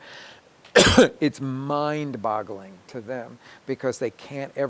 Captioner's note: coughing